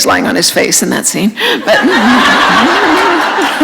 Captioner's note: laughter